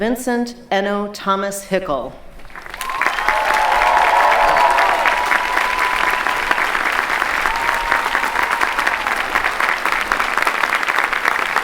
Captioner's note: clapping